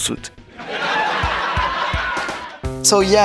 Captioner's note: laughs.mp3